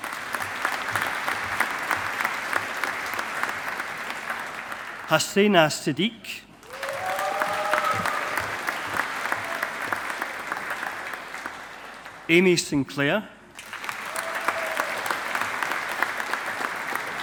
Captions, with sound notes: (AUDIENCE APPLAUDING) Hasena Siddique. (AUDIENCE APPLAUDING) Aimee Sinclair. (AUDIENCE APPLAUDING)